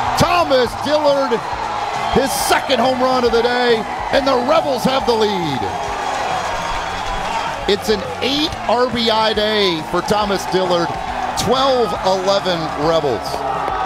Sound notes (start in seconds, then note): 6.0 crowd cheering